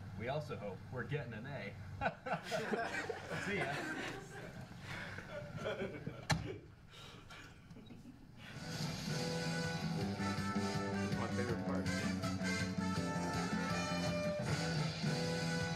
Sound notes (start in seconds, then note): 2.0 audience members laughing; 8.8 upbeat music